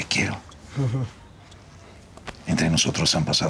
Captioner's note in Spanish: Ríe